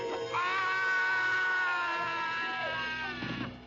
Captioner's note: Walter screams